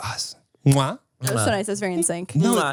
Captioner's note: Manny smooches; smooches